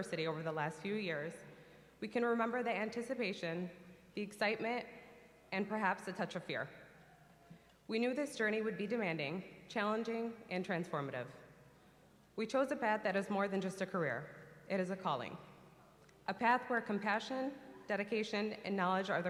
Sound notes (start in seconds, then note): none